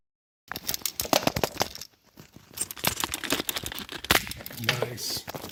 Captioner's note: camera clattering